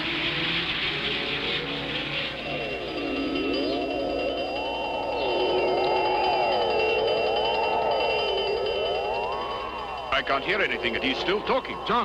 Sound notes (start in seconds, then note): 2.5 alarms ringing